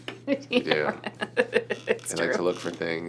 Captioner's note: laughing